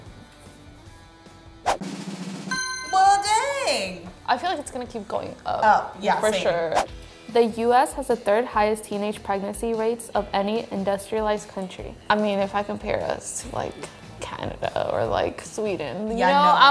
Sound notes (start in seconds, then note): 1.8 drum roll; 2.4 dings